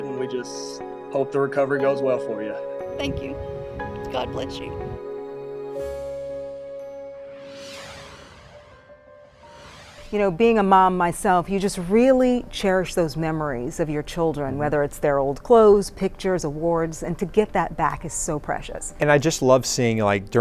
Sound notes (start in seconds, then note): 7.3 screen whooshes